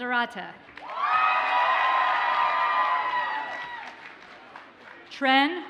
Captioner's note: audience cheers and applauds